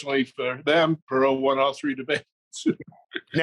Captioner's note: laughs